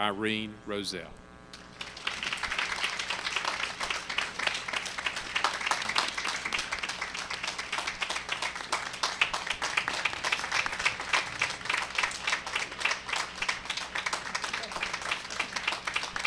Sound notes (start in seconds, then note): 1.5 applause